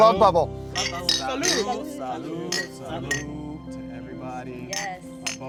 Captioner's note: glasses clinking; crowd chattering